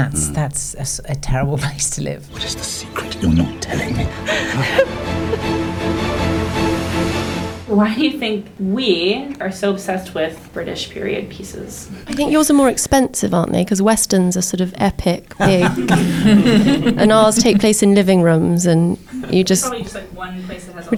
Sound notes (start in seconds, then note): 4.3 crying; 5.5 dramatic music; 15.3 laughing